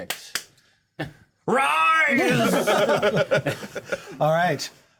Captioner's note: laughter